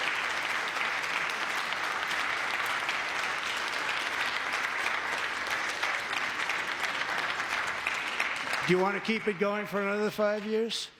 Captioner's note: applause